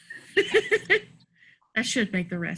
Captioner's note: laughs